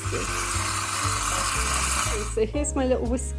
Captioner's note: tap flowing